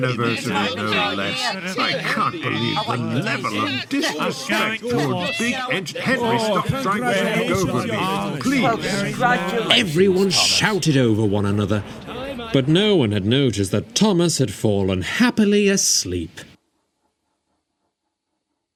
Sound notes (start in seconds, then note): 3.9 engines ranting and raving